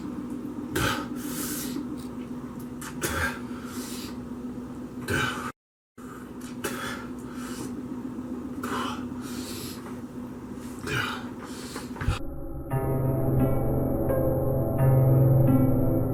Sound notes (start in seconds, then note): 6.0 panting; 12.1 dark foreboding music